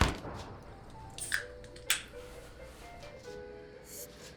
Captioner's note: thunder booming